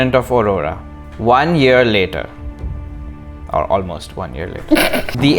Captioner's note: laughter